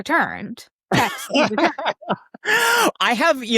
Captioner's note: laughing